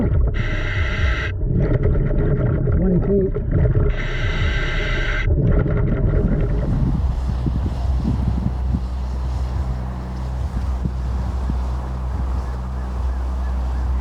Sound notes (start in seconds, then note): 0.0 mouthpiece hissing; 0.0 water bubbling; 3.9 mouthpiece hissing; 3.9 water bubbling; 6.4 wind whipping; 6.6 birds chirping